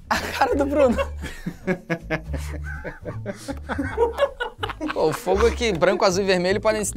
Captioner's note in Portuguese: risadas